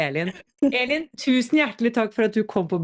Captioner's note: laughs